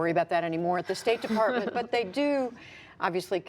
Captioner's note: laughter